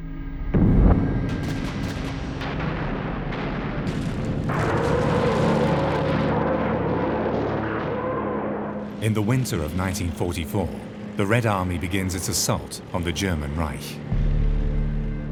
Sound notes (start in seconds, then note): 0.5 explosions roar; 1.3 guns fire